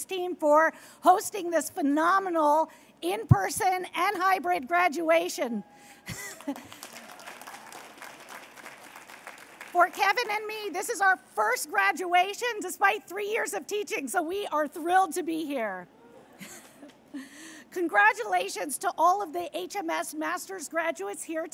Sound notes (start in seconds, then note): 6.1 applause